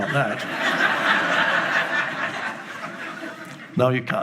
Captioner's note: laughing